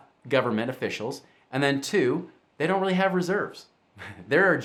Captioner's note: chuckles